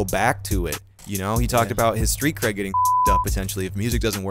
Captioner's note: beep